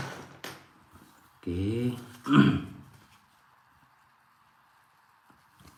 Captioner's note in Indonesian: berdehem